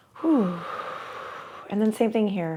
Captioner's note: exhales